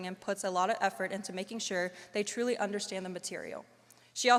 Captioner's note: none